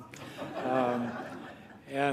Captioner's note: laughter